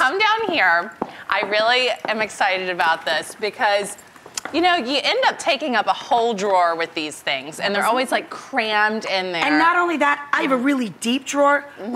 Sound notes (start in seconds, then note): none